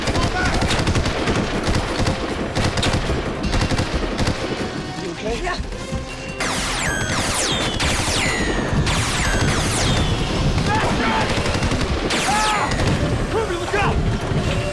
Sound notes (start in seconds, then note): 0.0 gunshot; 6.5 gunshot